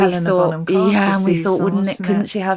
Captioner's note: laughs